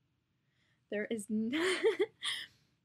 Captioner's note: laughs!